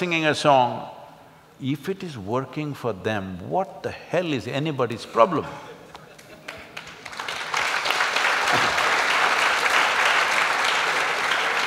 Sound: applause

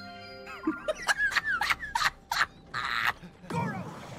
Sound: laughter

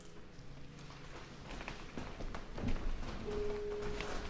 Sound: characters shuffling

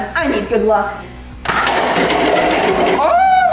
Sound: cups tumbling

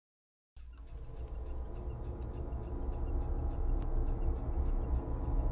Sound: fan whirring

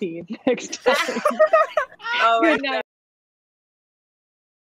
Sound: group laughing

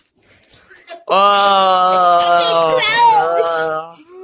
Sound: Spider-Man and Ralph Groaning

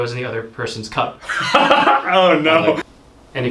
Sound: laughs

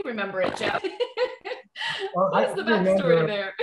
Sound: laughs

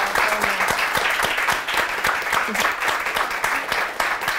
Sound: applause

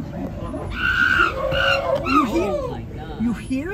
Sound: monkeys squawk

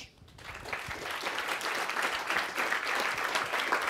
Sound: clapping

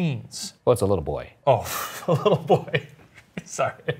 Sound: laughs

